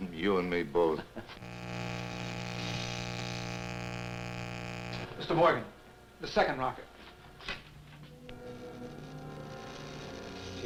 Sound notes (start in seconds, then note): 1.0 Quent chuckles; 1.4 equipment buzzing; 8.3 equipment buzzing